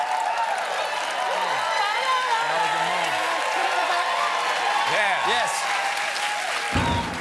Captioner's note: cheers and applause